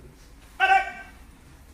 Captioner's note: enthusiastic shouting